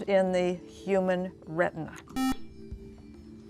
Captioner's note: beeping